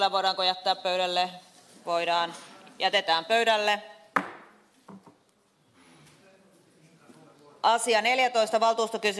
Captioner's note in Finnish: nuijan kopautus